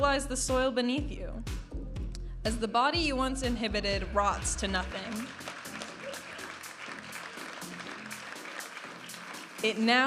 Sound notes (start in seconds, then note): 4.9 audience applauding and cheering; 7.5 vibrant music